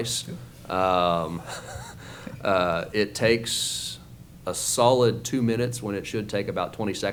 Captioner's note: laughs